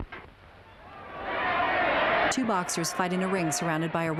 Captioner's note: crowd shouting indistinctly